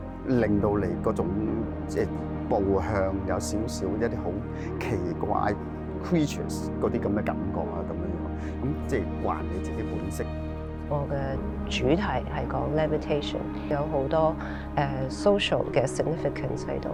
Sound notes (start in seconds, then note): 11.5 Cantonese